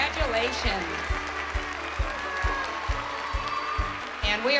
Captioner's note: cheering; upbeat music playing